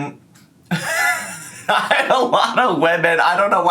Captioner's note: laughs